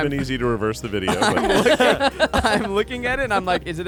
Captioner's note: everyone laughs